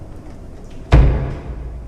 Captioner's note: knock